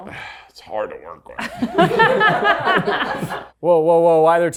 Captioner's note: everyone laughs